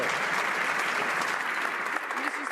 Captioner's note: some Applause